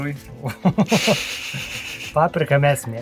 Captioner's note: laughs in Lithuanian